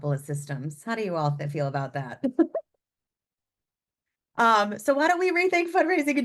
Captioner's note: laughs